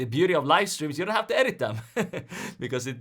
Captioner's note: chuckles